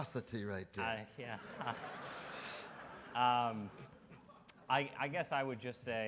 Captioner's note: audience laughs